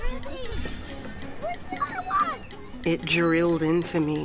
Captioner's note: children clamoring